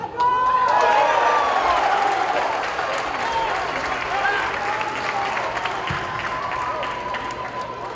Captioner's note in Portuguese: gritos de gol